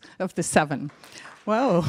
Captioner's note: mild applause